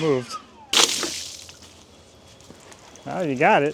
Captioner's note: water splashes